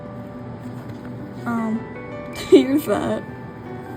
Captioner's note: laughs